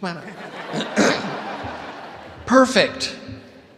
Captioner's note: audience laughing